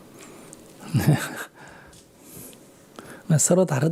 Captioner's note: Sunim Laughter